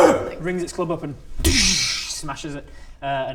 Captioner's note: dooosch